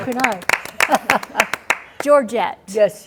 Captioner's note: clapping